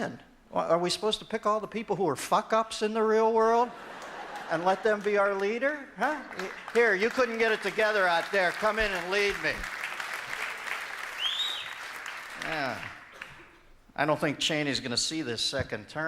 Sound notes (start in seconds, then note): 11.1 audience member whistling